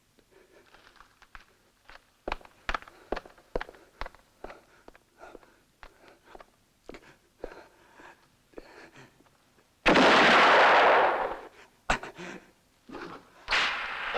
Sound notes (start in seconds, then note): 9.8 gunshot